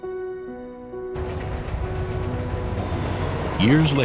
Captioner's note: train rumbling